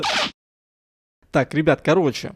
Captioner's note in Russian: Звук перемотки / Смена кадра